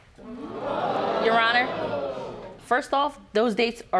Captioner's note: audience gasping